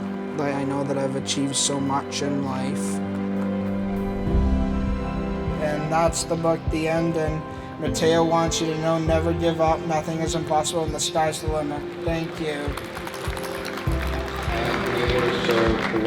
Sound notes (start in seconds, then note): 3.3 emotional music; 13.2 applause